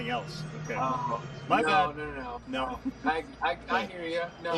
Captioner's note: laughter